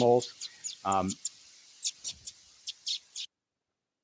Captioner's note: gerbils chirping